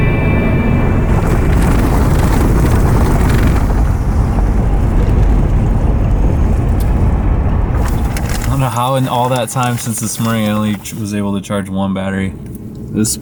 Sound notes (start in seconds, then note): 2.0 tires scrunching